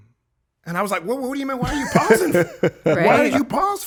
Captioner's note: Justin laughing